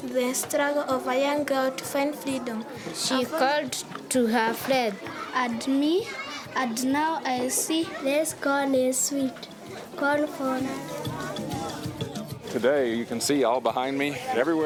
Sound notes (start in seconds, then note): 10.0 student whispers